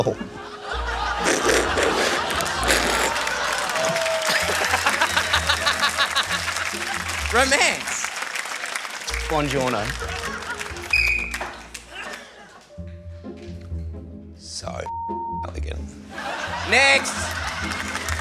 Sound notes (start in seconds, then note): 1.1 both slurp; 4.7 laughs; 10.9 blows whistle; 18.0 cheering and applause